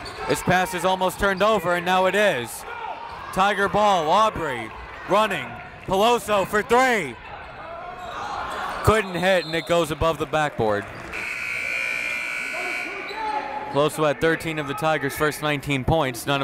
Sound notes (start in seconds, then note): 11.1 buzzer